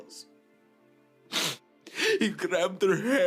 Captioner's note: Radovan sniffles